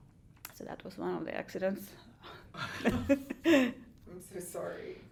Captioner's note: laughs